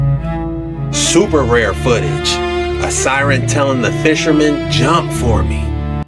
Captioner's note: CAUGHT ON CAMERA: Fishing-boat siren audio and fast underwater trails